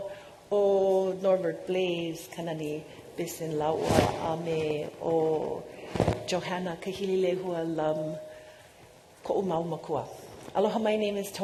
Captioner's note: speaking non-english